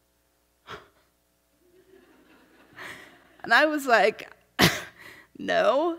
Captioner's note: laughs